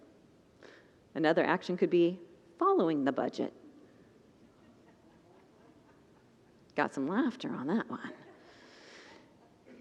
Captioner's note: congregants laugh